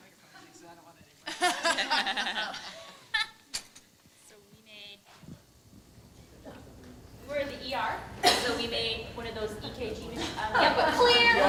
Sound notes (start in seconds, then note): 1.2 laughter